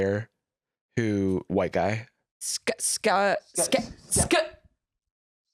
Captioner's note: stammering